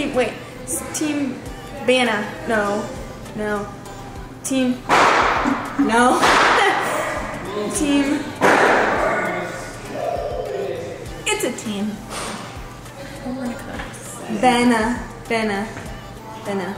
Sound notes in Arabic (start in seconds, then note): 5.7 تضحك